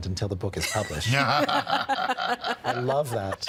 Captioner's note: both laughing